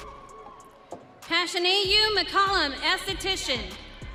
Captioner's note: audience cheering